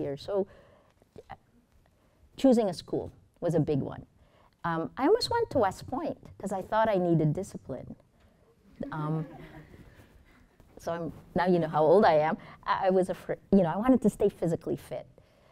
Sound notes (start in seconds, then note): 8.9 students chuckling